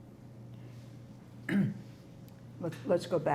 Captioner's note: clears throat